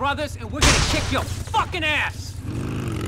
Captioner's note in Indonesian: random glitch